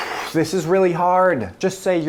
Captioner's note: sighing